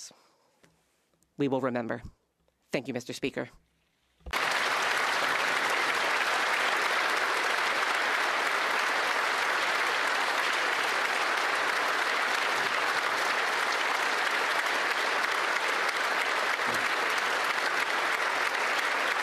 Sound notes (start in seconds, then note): 7.3 some Applause